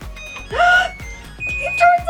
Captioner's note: machine beeping